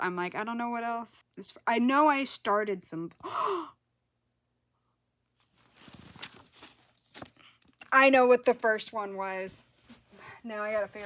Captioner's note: gasps